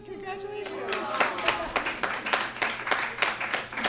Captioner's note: applause